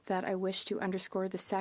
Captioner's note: speaking French